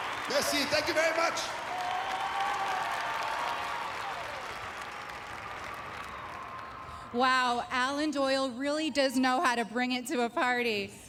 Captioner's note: applause and cheering